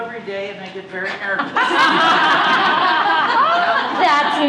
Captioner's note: laughter